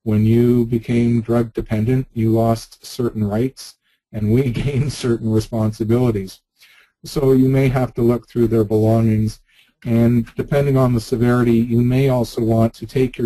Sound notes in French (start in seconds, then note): 4.3 gloussement